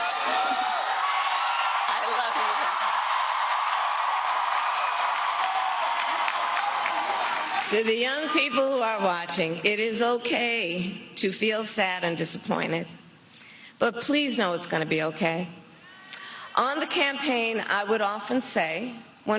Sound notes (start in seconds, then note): 10.0 crowd noise